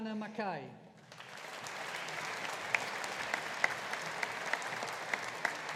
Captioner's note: audience applauding